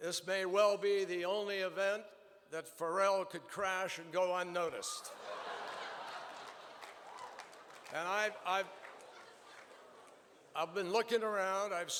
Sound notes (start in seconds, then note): 5.0 laughter and applause